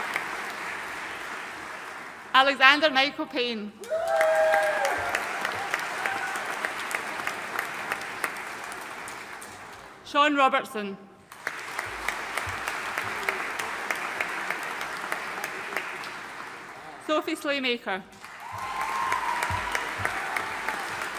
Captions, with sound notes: Alexander Michael Payne. (AUDIENCE CHEERING AND APPLAUDING) Sean Robertson. (AUDIENCE APPLAUDING) Sophie Slaymaker. (AUDIENCE APPLAUDING)